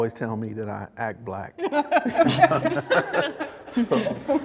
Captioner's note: all laugh